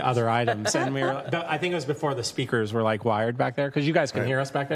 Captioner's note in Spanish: Risas